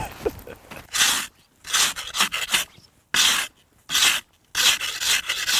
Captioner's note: laughs; ice scraper scraping